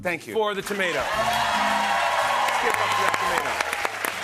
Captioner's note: cheers and applause